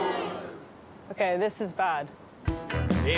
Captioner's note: audience groaning